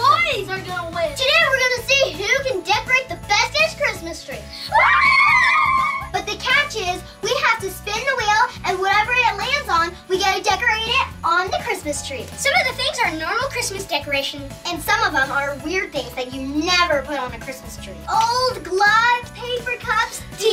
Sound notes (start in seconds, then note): 4.7 cheering